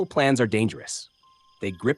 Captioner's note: pause